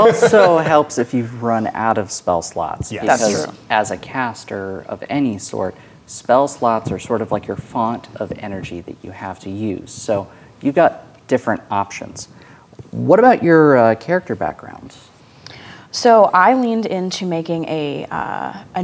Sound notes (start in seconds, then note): 2.9 players agreeing